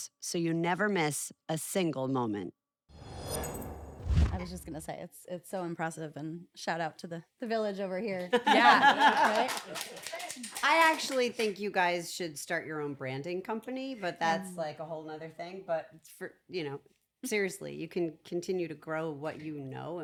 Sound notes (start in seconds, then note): 8.4 laugh